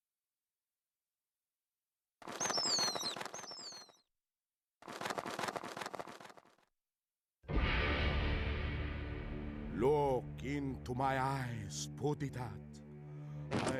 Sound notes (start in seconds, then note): 2.2 wings flapping